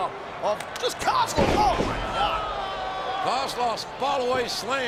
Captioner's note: mat thumping